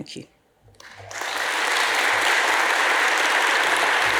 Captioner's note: audience applauds